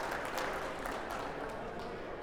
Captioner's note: audience applauding